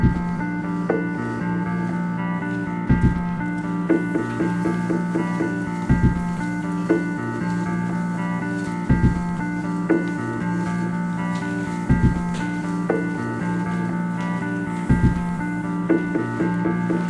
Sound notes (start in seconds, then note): 4.0 hand sliding on railing